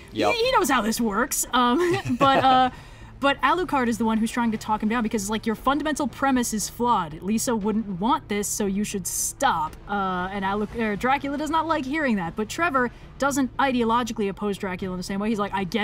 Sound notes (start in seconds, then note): 1.8 laughs